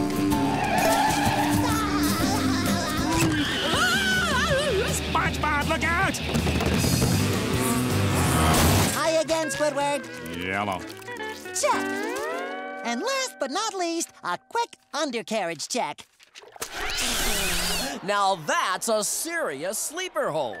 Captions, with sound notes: [laughing] [screaming] SpongeBob look out! Hi again Squidward. Hello. Check! And last but not least, a quick undercarriage check. Now that's a serious sleeper hold.